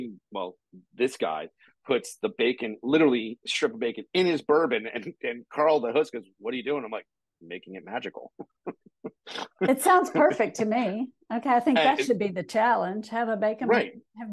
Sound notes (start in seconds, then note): 8.2 laughing